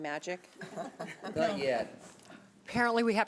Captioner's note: chuckling